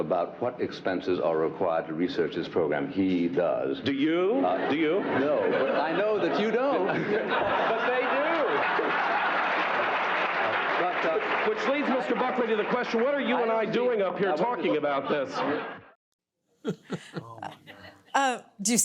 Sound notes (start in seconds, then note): 10.1 audience laughs; 16.6 laughs